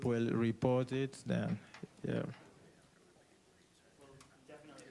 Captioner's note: students chattering